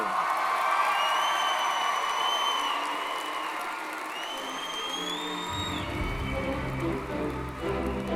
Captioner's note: applause & Cheering